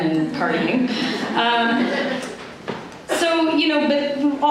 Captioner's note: laughter